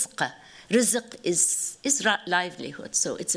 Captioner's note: non-english